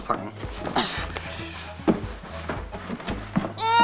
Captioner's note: keuchen angestrengt